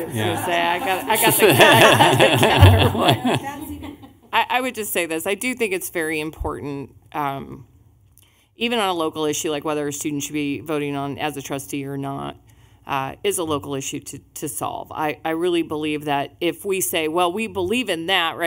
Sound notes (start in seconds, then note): 4.3 laughing